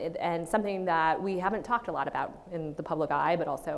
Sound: none

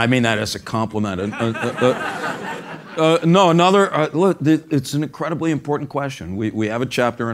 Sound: laugh

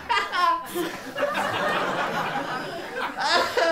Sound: laughter

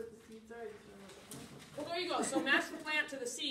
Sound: laughter

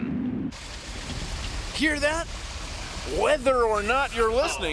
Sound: <i> wind blowing</i>

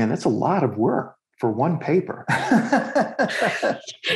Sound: laughs

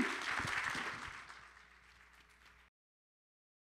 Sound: applause

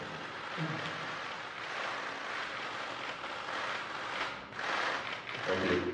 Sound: camera clicks

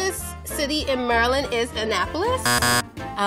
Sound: buzzer buzzing

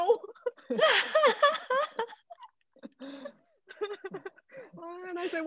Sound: all laughing

